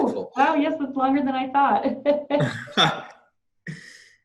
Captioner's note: laughs